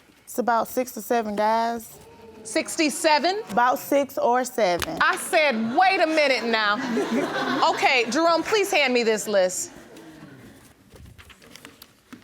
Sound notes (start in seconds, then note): 5.0 audience laughing